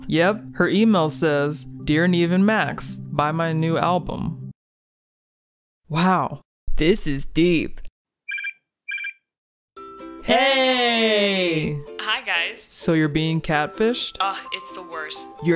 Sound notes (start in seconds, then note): 8.2 computer beeps